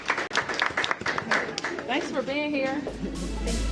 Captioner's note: applause